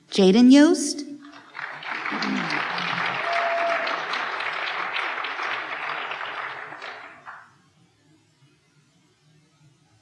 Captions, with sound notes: Jayden Yost. (applause)